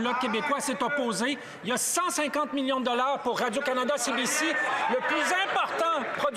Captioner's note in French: voix de l'interprète